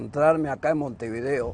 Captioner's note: speaking Spanish